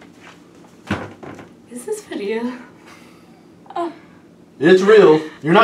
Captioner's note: laughs